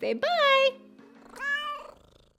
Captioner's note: cat meowing